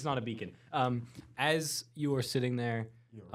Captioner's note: none